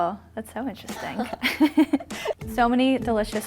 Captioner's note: laughs